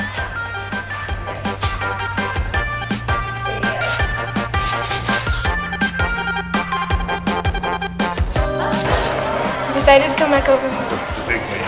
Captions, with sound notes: (upbeat pop music) (camera shutter clicks) - We decided to come back over here.